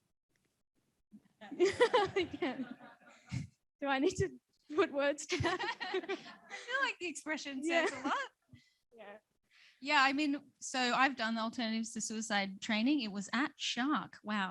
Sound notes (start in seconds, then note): 1.4 all laughing